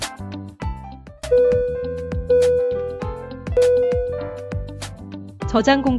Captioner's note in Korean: 휴대폰 알림음